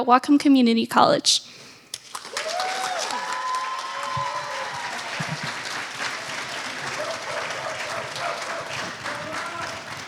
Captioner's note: applause